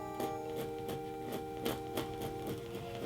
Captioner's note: pencil scratching canvas